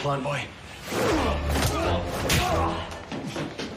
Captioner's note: both grunting